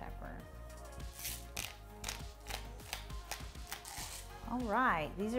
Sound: pepper grinder creeks

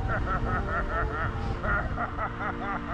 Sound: laughs

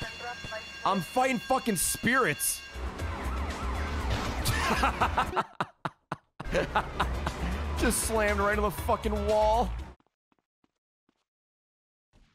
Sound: laughs

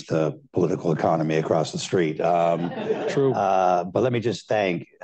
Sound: laughter

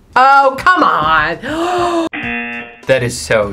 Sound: gasps; buzzer rings

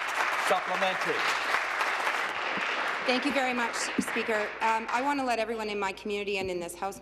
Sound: applause

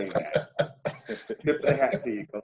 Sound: laughing

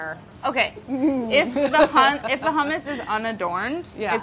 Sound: laughs

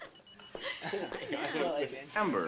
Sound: girl giggles

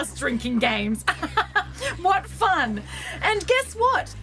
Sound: forced laughter

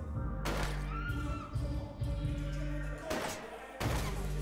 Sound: gun firing

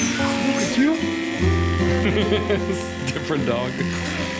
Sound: laughter

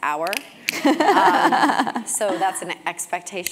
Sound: laugh

